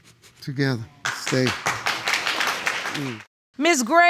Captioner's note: applause